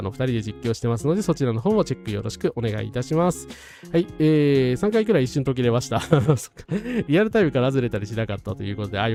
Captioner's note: laughs